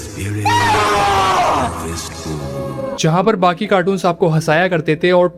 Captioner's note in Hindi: चीखने की आवाज़